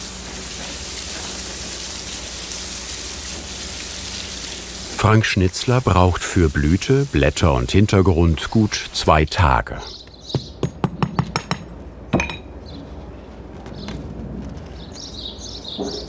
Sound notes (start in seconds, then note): 14.6 birds chirping